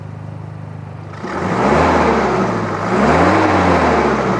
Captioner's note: engine revving